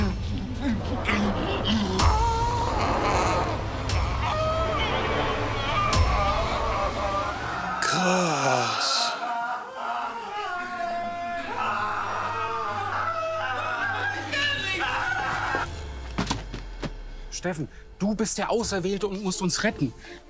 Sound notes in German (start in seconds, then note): 1.9 Schmerzerfüllte Rufe